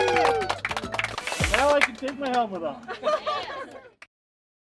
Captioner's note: cheering